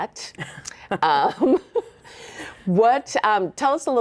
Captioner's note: both laughing